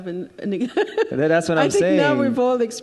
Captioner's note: chuckles